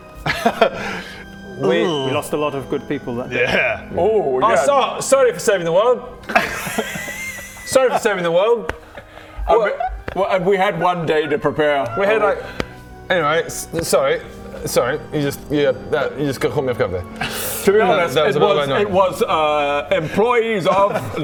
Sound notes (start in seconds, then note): 0.2 awkward laugh; 6.2 indignant laugh